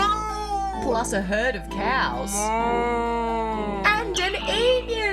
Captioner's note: cow moos